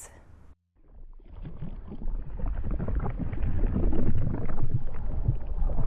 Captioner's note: chemicals burbling